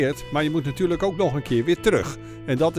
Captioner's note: voiceover